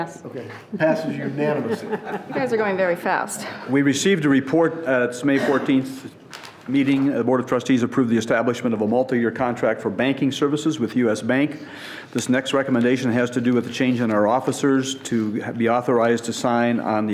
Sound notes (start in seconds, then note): 2.3 chuckling